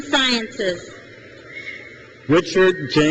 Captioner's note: crowd cheers